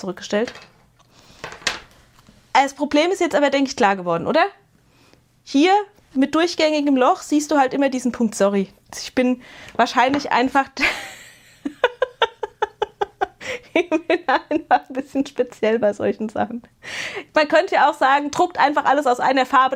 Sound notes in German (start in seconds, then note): 10.8 gelächter